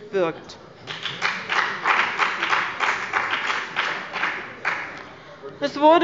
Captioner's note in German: Beifall bei dem BÜNDNIS 90/ DIE GRÜNEN